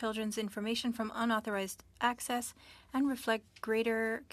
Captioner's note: speaking French